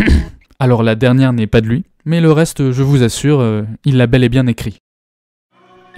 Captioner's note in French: toux gênée